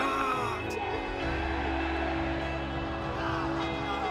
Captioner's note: crowd cheering